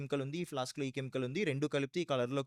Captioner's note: non-english speech